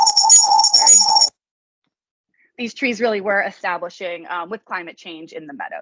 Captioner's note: feedback interruption